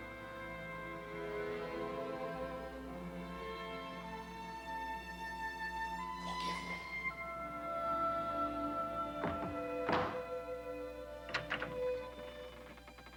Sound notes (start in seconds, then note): 6.9 quietly; 8.3 dramatic music